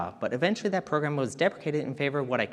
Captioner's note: none